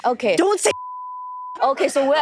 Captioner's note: beep